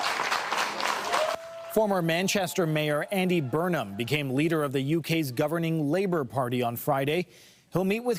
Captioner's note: applause